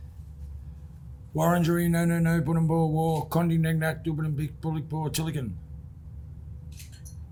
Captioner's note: additional Indigenous speech